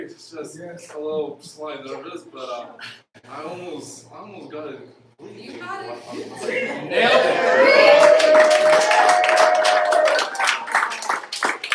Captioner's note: applause